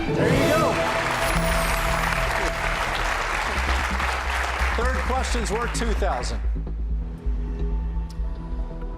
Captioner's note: applause